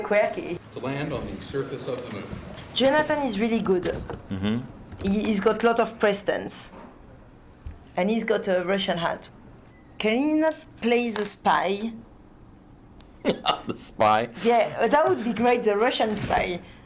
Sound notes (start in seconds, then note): 12.4 laughs